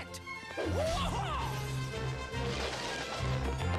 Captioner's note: karate shout